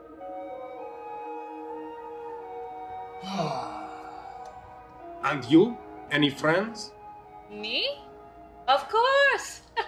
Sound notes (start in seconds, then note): 3.2 Aleksandr sighs resignedly